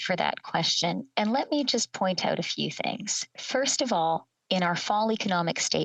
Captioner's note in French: voix de l'interprète